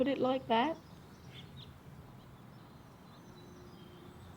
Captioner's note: birds chirping